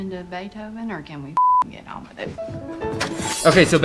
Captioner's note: beep